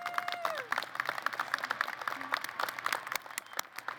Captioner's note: applause